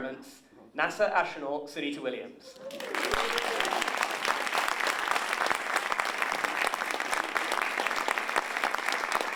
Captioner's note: applause